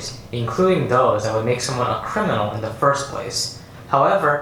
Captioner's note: none